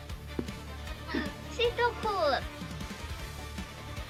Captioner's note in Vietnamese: Tiếng Pháp